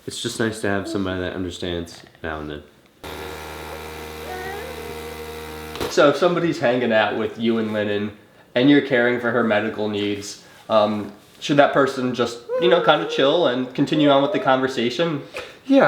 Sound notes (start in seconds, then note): 3.0 device buzzing; 4.2 groans